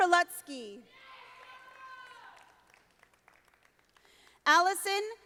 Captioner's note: audience applauding